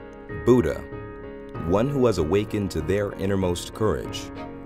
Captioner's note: voiceover